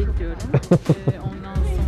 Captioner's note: laughter